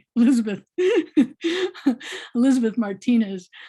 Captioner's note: laughing